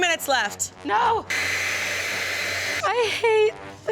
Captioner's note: dryer blowing